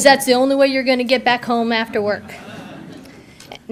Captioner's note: audience laughter